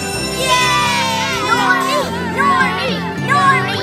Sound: cheering; chanting

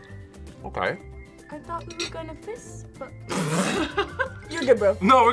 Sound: laughs

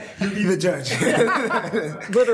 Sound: laughs

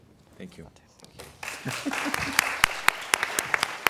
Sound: applause

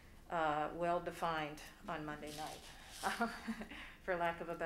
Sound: laughs

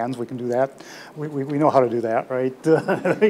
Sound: laughs

